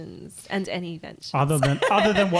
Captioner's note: laughing